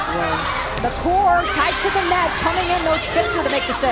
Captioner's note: voiceover